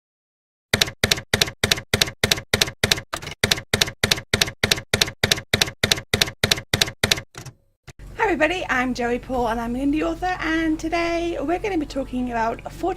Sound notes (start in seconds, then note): 0.7 typewriter keys clacking